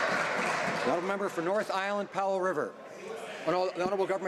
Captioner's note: some Applause